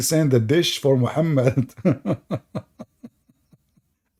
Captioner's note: Ketawa